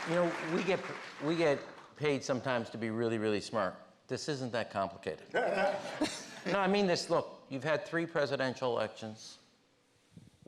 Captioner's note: applause